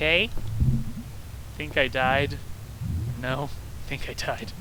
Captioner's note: laughs